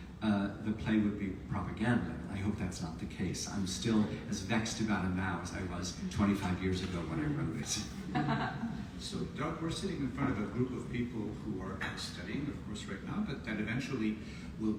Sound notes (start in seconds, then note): 8.0 audience laughs